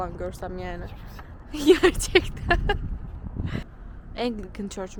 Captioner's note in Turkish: kahkaha